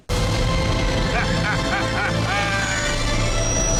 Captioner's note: laughing; dramatic music